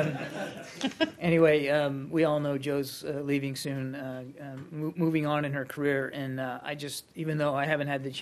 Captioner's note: laughter